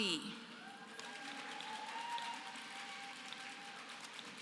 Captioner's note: applause